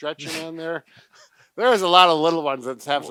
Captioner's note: laughs